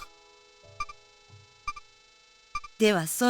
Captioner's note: silence